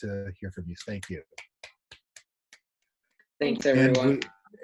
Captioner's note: clapping